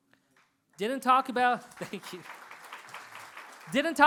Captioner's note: applause